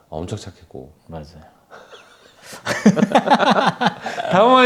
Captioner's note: talking about prices made the two men laugh